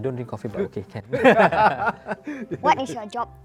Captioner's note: laughs